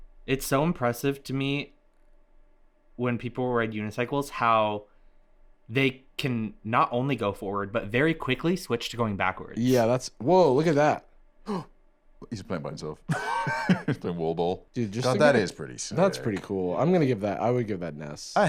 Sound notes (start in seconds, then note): 11.4 gasps